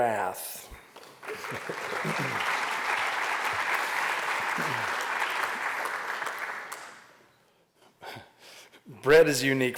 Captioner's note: applause